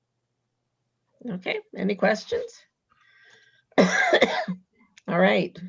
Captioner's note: coughs